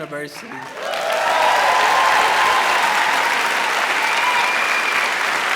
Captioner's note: crowd cheers and applauds